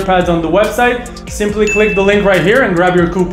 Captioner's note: button beeps